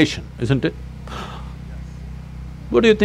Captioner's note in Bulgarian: Жестикулира поемане на дъх